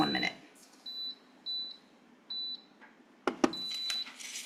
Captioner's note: mixer beeps